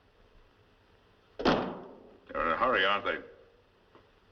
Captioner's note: slams Phone Down